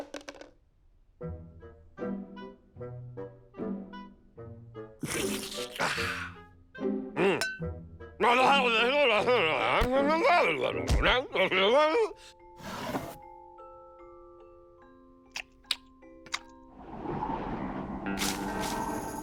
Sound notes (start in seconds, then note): 8.4 continues muttering; 16.6 wind blowing